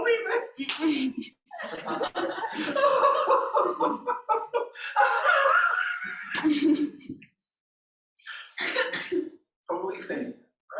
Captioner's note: laughter